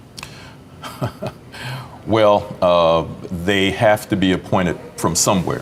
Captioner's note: laughing